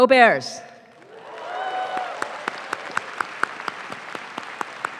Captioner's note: audience claps